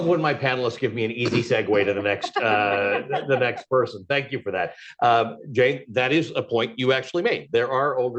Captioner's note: laughter